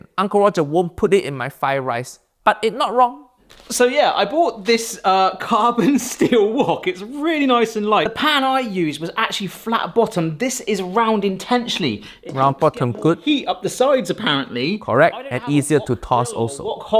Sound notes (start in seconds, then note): 6.1 laughs